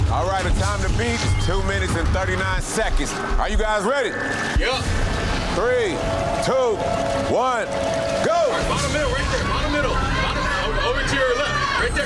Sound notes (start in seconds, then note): 2.6 digital beeping; 9.3 other contestants shouting